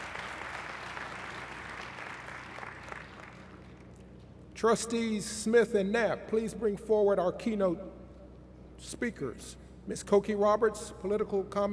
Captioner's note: applause